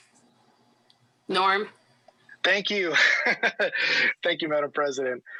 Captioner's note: laughs